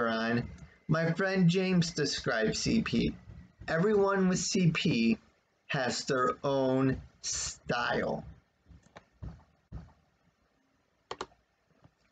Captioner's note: click of the trackpad